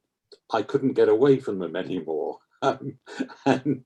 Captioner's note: laughter